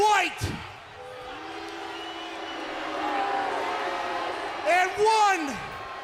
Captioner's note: crowd chatter